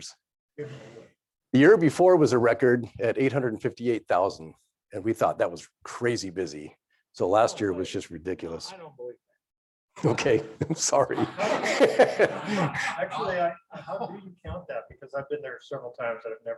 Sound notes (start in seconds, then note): 10.1 laughing